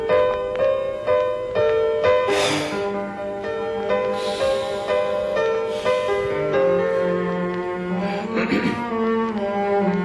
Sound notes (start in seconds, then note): 2.2 exhales; 4.0 breathes heavily; 8.3 clears throat